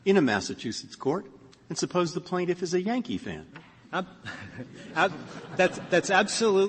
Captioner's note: laughter